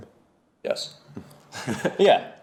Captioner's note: laughs